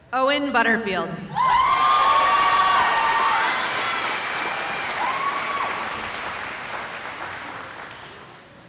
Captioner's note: cheering